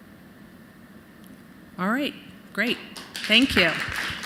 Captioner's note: applause